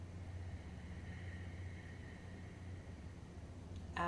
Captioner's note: inhales